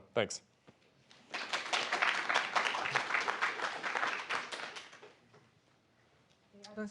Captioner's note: applause